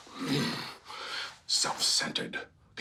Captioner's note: groaning